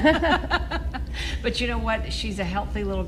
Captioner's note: laughter